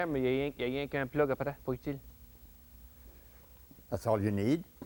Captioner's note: speaking Acadian French